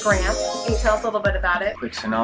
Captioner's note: windchimes